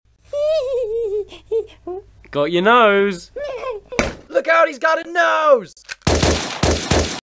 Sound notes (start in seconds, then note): 0.3 baby Giggling; 3.3 baby Giggles Continue; 6.0 gun Fire